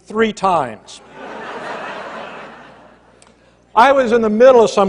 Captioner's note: laughter